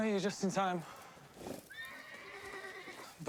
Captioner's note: whinnies